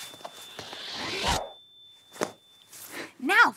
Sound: phone pass swooshes

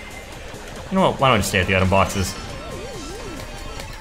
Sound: laughs

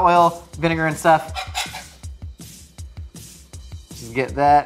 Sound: spatula scrapes

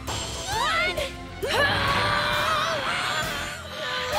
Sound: both grunting

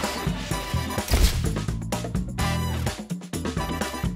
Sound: camera shutter snaps; soulful upbeat music continues

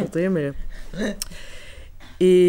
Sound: laughs

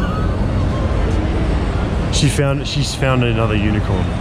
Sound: laughing

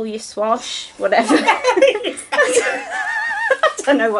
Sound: both laugh

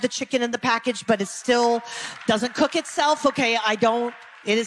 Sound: some clapping

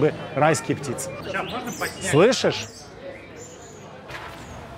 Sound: birds chirping

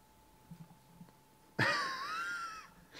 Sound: laughs

